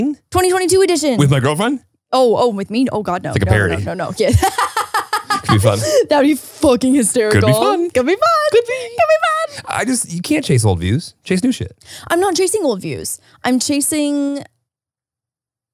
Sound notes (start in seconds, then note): 3.4 laughs